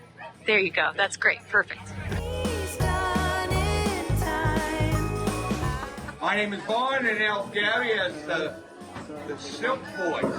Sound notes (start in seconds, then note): 7.3 audio muffles